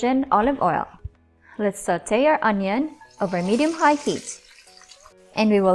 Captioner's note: oil Sizzling